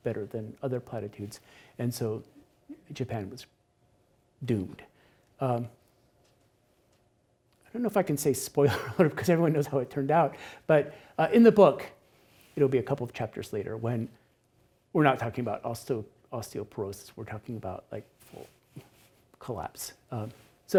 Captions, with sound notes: better than other platitudes. And so Japan was doomed. I don't know if I can say spoiler, (laughs) 'cause everyone knows how it turned out. But in the book, it'll be a couple of chapters later when we're not talking about osteoporosis, we're talking about like full collapse.